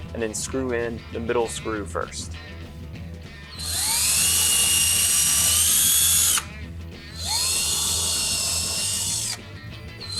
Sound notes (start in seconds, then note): 3.4 drilling